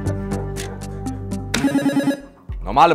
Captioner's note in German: Buzzer